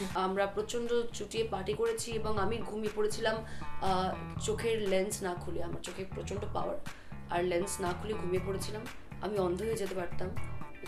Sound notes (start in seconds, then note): none